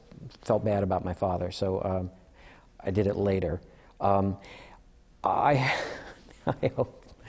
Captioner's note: laughter